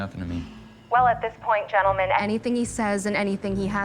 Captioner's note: on phone